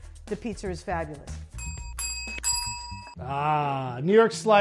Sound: bells ring

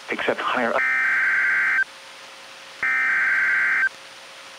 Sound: SAME header tones

